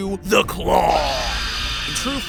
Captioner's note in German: Geschrei